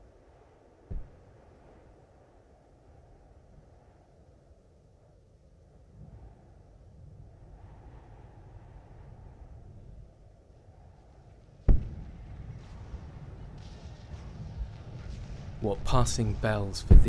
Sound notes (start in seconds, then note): 0.1 quite erie wind; 11.6 far explosions; 13.5 distant gunfire